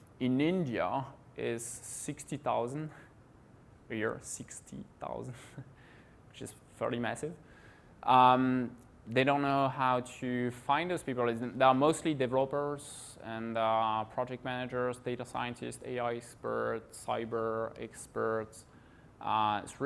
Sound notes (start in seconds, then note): 5.3 giggles